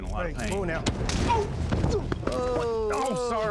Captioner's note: punch; scottish accent